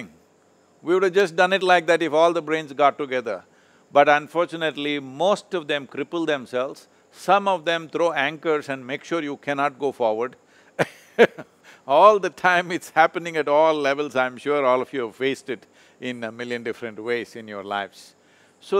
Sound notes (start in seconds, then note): 10.8 laughs